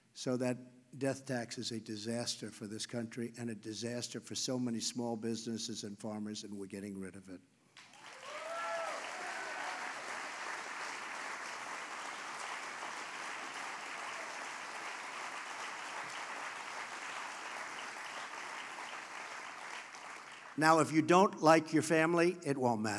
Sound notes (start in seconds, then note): 7.4 applause